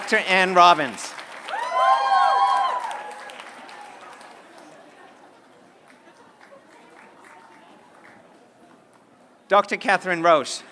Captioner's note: applause